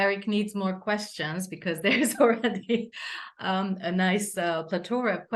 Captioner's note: chuckles